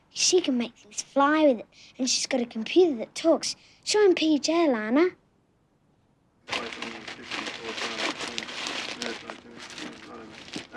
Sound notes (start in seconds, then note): 6.5 men chattering